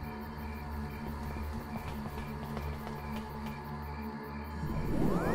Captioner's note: footsteps patter; crickets chirping; whooshing